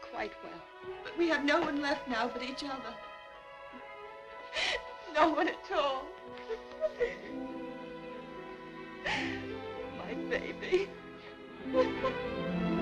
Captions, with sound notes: he's quite well. But we have no one left now but each other. No one at all. (sobbing) My baby.